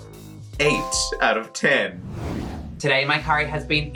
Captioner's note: dings